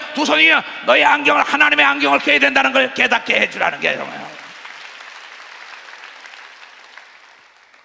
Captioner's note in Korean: 박수